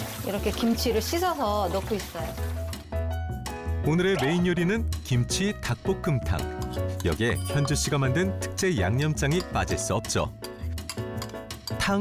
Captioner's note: voiceover